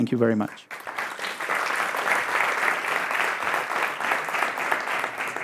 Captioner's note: audience applauding